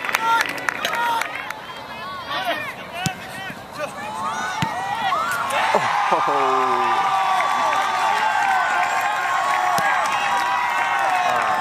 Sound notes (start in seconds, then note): 7.2 crowd cheers